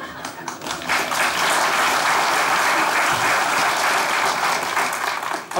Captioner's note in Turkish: Alkış sesleri